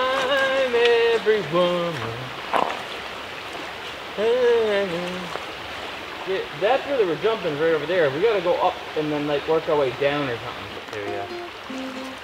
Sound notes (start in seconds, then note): 4.6 humming tune